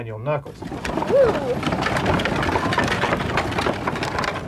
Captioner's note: wheel clattering